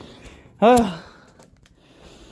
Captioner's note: sighs